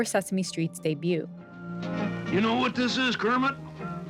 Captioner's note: soundbite of archived recording